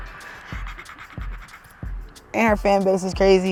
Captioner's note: muah; Kelsey laughing